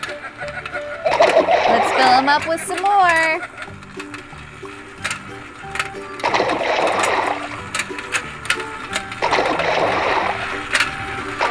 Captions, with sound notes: (water splashes) Let's fill him up with some more. (water splashes)